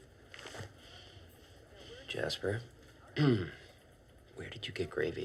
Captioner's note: clears throat